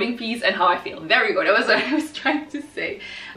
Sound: laughs

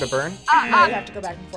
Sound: buzzer rings; buzzer

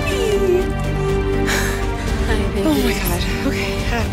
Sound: sigh

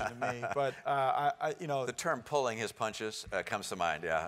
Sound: laugh

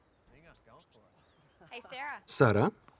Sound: birds chirping

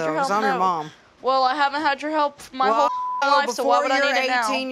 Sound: beep

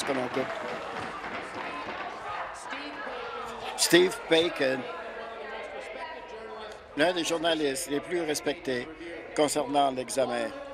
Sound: applause

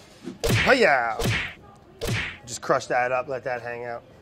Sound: karate chop noises

